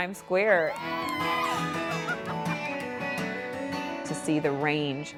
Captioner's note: people cheering